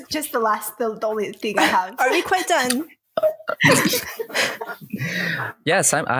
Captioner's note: laughter